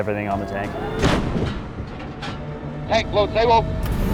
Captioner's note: cannon blasts